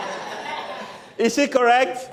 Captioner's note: laughter